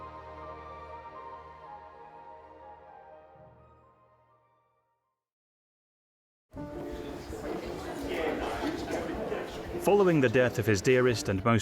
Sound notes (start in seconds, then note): 6.6 calm music; 6.6 people chattering